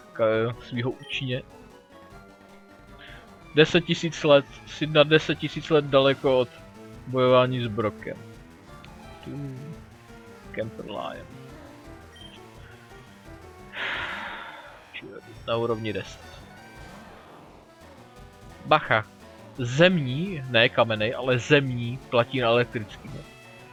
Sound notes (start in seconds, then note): 13.7 a long sigh